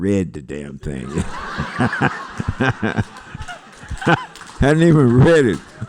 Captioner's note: laughter